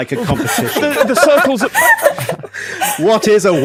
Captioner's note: group laughing